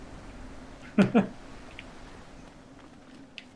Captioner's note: chuckles